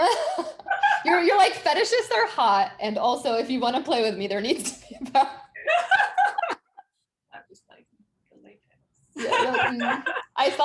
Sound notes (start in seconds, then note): 0.0 both laughing; 5.1 both laughing; 9.2 laughing